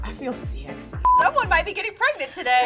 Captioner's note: beeping; laughing